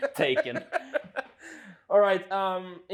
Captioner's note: laughs